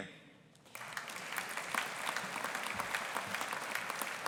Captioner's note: audience applauding